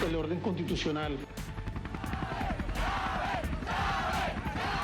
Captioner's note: chanting; chanting continues